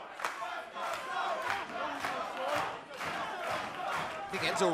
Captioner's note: fans chanting